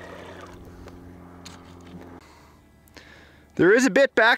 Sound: engine dies

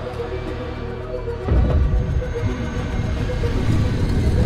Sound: gate closes

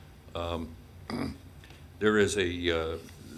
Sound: clears throat

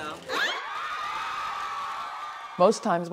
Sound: all cheering

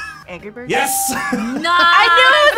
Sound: laughs

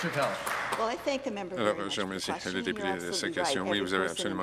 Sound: some Applause

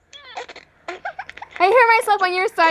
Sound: giggling

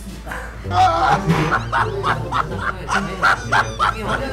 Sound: laughter

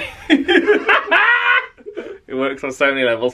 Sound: they laugh

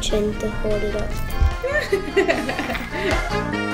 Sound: others laughing

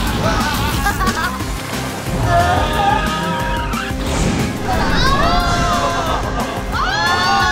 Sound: dramatic music continues; riders yell

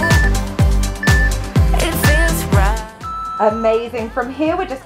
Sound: timer beeping

